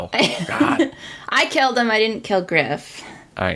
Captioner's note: laughs